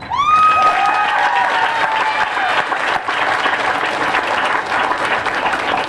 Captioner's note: cheering and applause